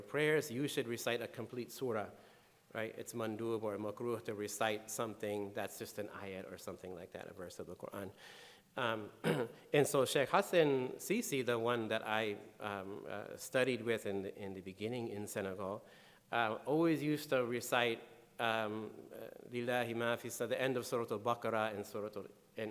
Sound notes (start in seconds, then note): 18.1 speaking in foreign language